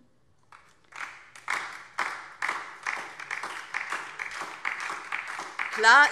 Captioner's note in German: Beifall DIE LINKE und vereinzelt SPD